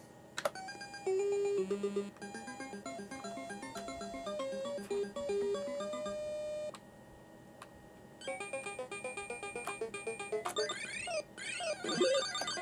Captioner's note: Dig Dug noises